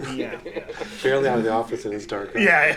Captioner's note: laughing loudly